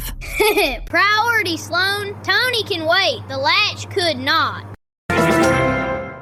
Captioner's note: laughs